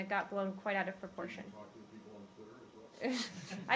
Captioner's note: laughter